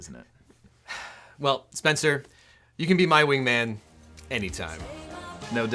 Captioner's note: sighs